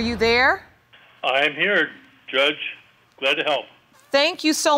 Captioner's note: on phone